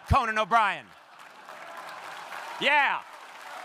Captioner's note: crowd applauding